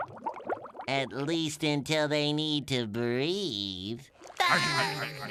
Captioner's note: laughter